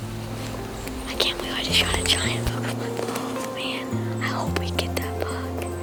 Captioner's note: whispering